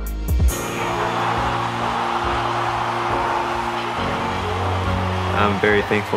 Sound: crowd cheering

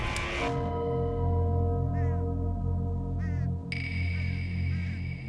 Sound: church bell

